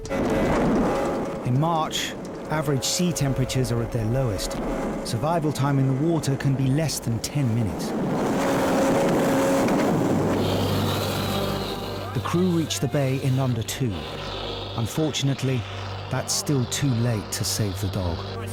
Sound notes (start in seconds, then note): 0.2 lifeboat engine whirring; 7.6 wind swooshing; 8.0 lifeboat engine whirring